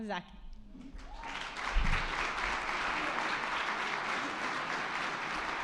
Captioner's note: attendees clapping